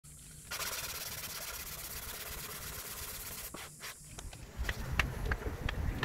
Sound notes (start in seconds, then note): 0.4 sandpaper scratching